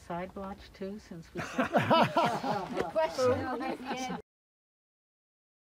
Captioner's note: laughter